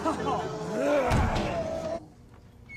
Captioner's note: moans; growls